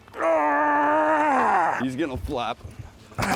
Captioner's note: grunts